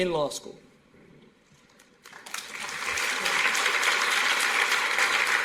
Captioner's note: applause